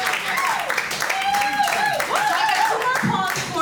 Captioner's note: audience cheers and applauds